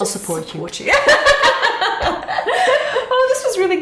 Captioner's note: both laughing